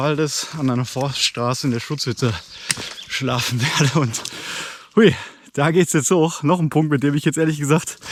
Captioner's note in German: Gelächter